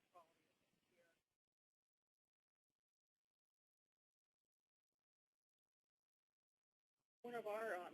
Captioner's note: silence